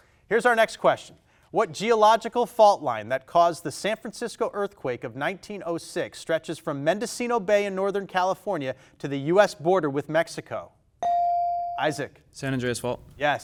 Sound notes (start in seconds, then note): 11.0 buzzer dings